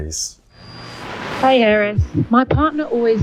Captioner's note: radio buzzing